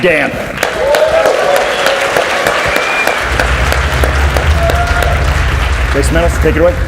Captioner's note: audience cheers and applauds